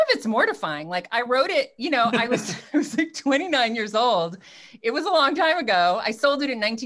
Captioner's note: laughs